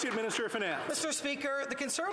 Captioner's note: some Applause